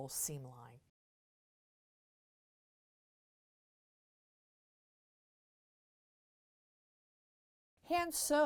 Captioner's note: no Sound Present